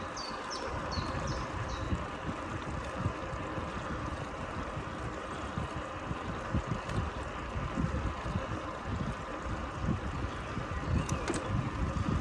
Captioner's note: tyre noise on Asphalt, Birds chirping in Background